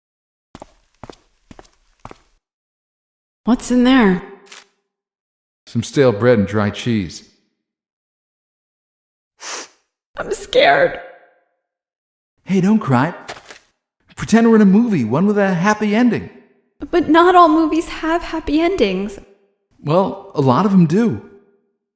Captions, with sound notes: [footsteps] What's in there? Some stale bread and dry cheese. [sniff] I'm scared. Hey, don't cry. Pretend we're in a movie, one with a happy ending. But not all movies have happy endings. Well, a lot of them do.